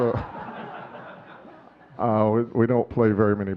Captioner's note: audience laughing